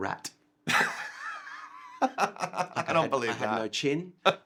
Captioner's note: laughs